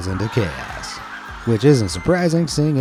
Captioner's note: crowd laughing